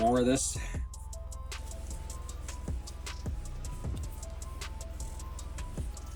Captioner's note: crackling